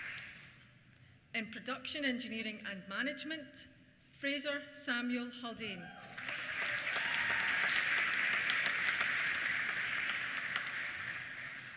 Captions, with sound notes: In Production Engineering and Management, Fraser Samuel Haldane. (CHEERS) (APPLAUSE)